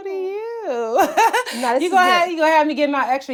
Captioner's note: laughs